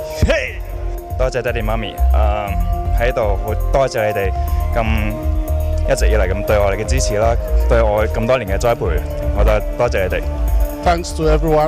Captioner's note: speaking foreign language